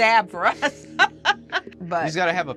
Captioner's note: laughing